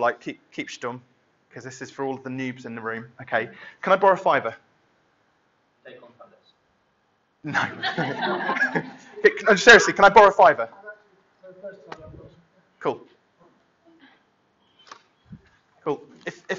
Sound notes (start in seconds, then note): 7.4 laughter; 11.0 chattering